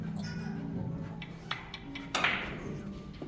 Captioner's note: chalk clap